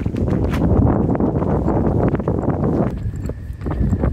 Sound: wind blowing

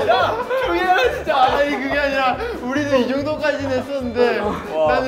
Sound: gasping

